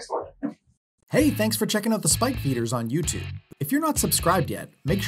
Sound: voiceover

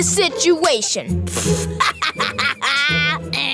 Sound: scoffing, laughing

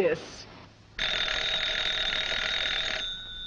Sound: telephone rings

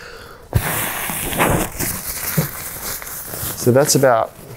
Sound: blowing sound

